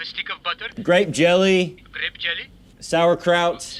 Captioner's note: phone